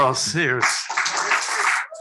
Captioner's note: applause